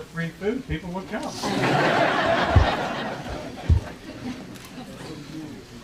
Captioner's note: audience laughing